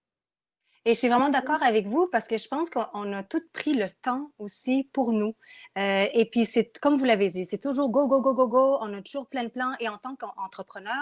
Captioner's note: speaking in French